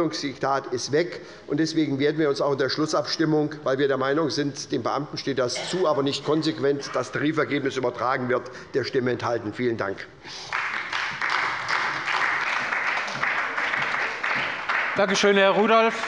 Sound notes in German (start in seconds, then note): 10.3 Beifall bei der SPD